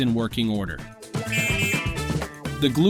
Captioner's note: electric horn sound